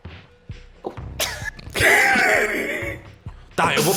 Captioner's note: laughs